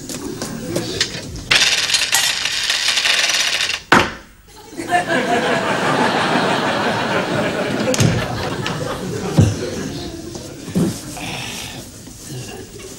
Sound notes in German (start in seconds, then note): 0.8 Münzen klappern; 4.2 Dumpfer Schlag